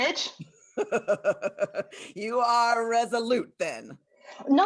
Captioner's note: laughs